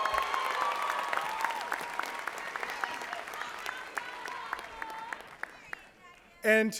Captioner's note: applause